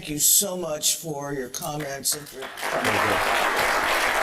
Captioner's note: applause